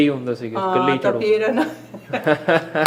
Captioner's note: laughs